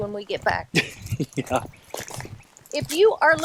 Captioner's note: laughs